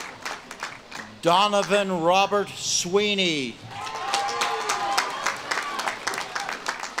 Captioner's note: audience claps and cheers